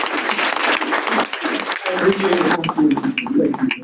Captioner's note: laughter, clapping